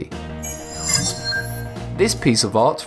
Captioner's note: sharp chiming